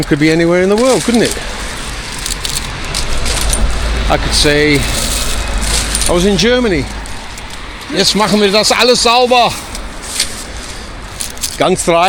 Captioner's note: foreign language